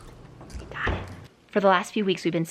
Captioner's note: girls crunching popcorn